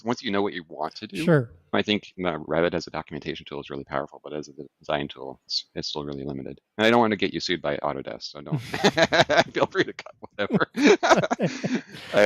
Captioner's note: laughs